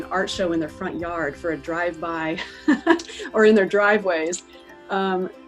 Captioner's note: laughs